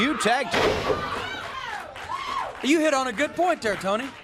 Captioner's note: crowd cheering